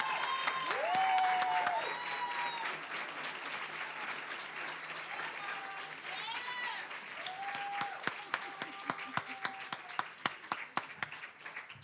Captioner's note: applause, cheering